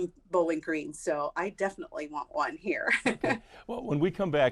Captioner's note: laughs